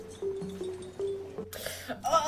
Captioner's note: 𝘩𝘪𝘴𝘴𝘦𝘴